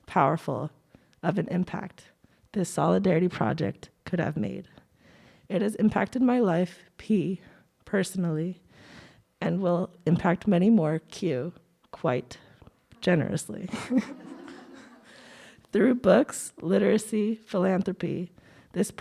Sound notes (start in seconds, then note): 13.7 laughs; 13.7 audience laughing